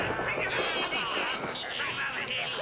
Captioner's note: devils chattering